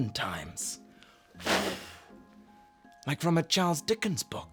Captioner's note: blows